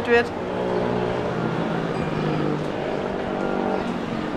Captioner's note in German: Stadtgeräusche